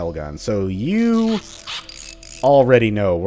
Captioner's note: tinkering noises